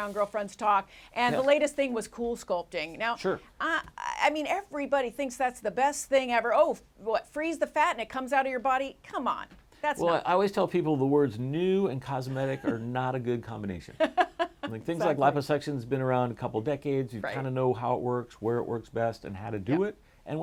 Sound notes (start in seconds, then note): 13.9 laughter